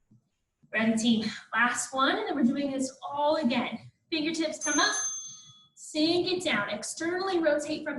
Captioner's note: ding